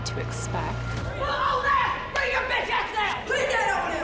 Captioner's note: inmate shouting